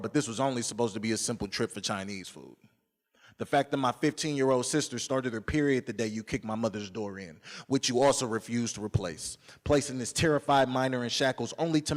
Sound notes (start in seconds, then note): none